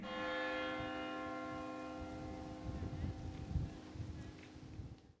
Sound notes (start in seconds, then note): 0.0 bells ringing; 2.7 wind rustling